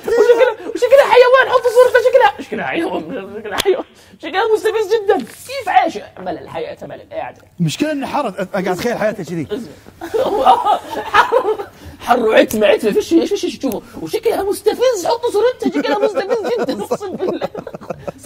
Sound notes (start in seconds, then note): 10.0 everyone laughs